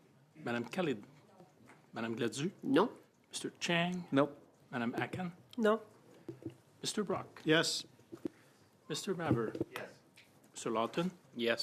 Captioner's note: calling of recorded vote